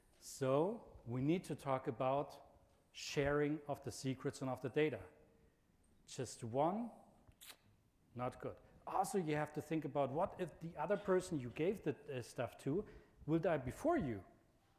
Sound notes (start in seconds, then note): 7.4 clicks tongue